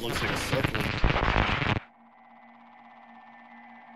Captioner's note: noise interfering